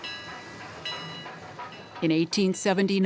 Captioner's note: train bells